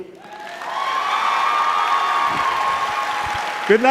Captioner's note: cheering